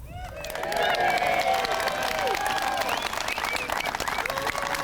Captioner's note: crowd cheering